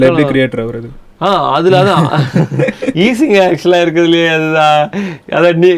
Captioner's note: laughing